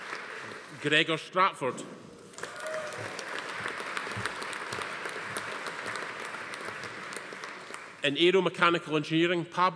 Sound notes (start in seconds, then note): 2.3 audience applauding; 2.3 attendees cheering